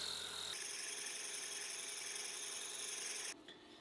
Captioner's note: drill whirs